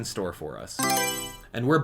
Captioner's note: Mario Selection Sound